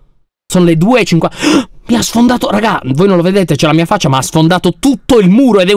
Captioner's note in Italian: sussulta